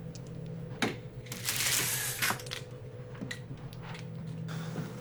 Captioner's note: blinds clattering